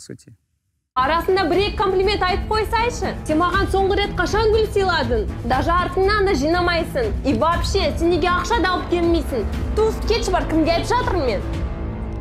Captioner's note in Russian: говорит на казахском